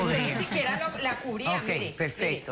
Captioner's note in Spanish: Hablan al unísono